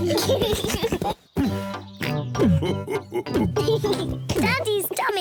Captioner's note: all chuckle; chuckles; giggles